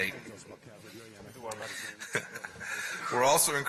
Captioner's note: laughter